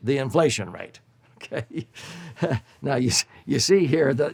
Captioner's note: chuckles